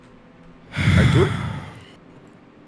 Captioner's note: heavy sighs